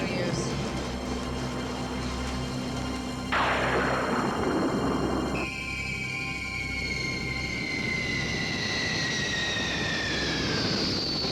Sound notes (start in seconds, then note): 5.3 airplane squealing